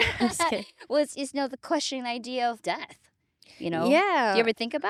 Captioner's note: laughing